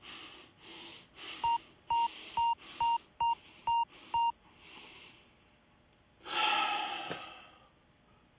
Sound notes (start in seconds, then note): 1.4 beeping rapidly; 6.2 exhales sharply